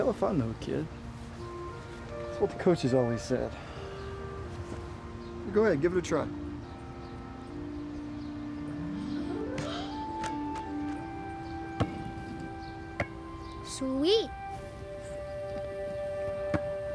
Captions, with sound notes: - Hell if I know, kid. It's what the coaches always said. Go ahead, give it a try. (gentle music) (ball bounces) - Sweet!